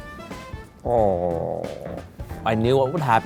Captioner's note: groans